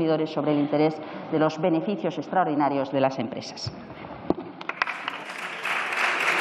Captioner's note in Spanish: Aplausos